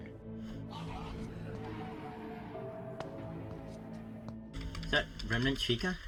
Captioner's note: descending tone